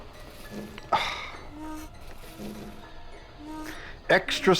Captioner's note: vase scrapes along table; sighs